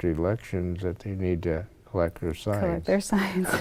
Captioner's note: chuckles